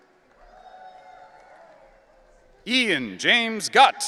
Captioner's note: audience cheering